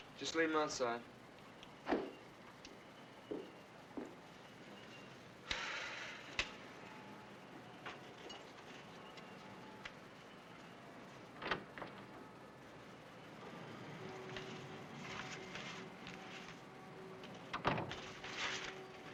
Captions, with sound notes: - Just leave 'em outside. (newspapers thump on ground) (sighs) (match strikes) (door opens) (door closes)